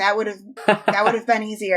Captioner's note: laughs